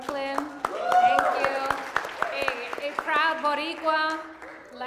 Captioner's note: audience applauds